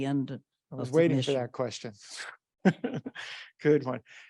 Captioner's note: chuckles